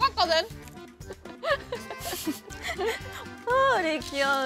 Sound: chuckle

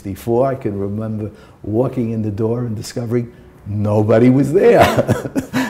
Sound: laughter

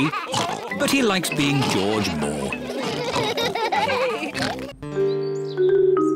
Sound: all laugh

